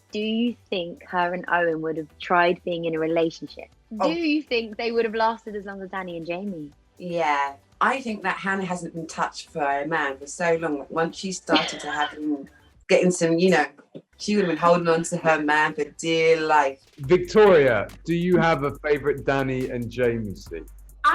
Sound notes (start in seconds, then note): 11.5 chuckles